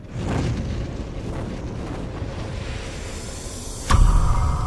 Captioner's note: bird flying whoosh